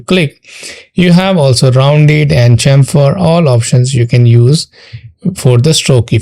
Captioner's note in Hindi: नाक से की जाने वाली आवाज़